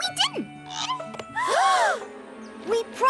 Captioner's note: all gasp